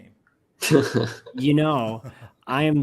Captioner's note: chuckling